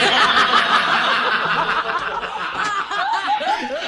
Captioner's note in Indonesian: tertawa